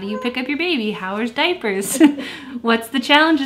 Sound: laughs

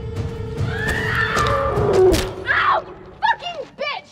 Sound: lamb screaming

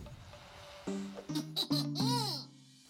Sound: evil giggling

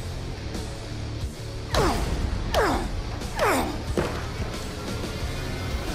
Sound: grunts

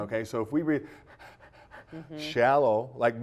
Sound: heavy breathing sound

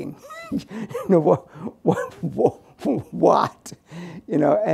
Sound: laughs

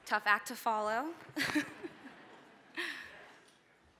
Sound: laughter

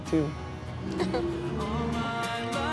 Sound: laughing

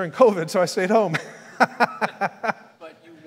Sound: laughs

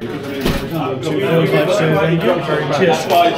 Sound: people chattering

